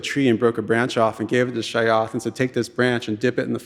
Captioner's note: speaking in Tlingit language